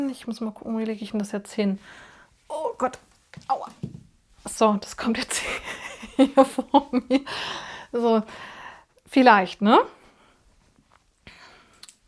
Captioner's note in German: gelächter